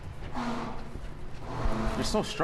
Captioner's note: rubber scraping